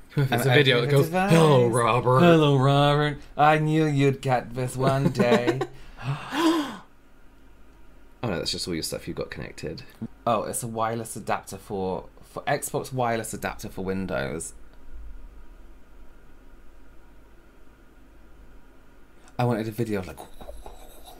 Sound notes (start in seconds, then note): 5.8 really Real Gasps